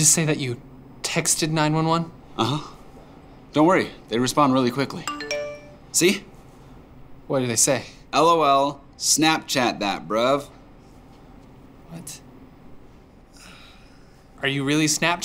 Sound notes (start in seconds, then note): 5.0 text alert